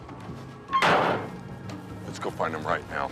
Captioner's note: tailgate clanking